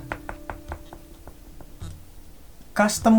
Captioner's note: knocking the tube